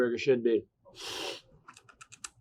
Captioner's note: sniffing; lips smacking